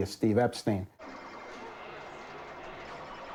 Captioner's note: arcade ambience